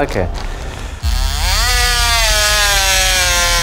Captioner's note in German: Lautes Sägegeräusch